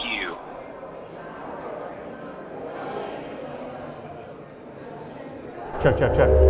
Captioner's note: crowd talking